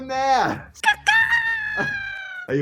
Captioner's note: bird noises